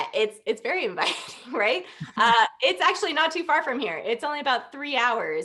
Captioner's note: laughter